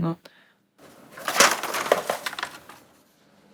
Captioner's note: papers fly